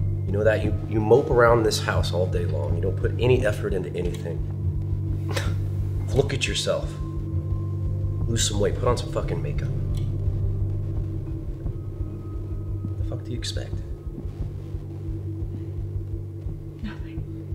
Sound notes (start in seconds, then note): 5.0 scoff